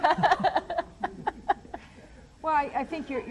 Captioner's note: laughs